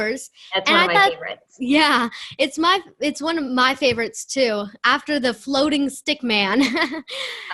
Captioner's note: laughter